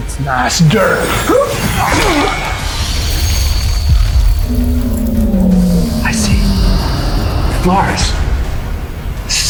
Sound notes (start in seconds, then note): 0.8 energy whirring; 1.5 fighters grunting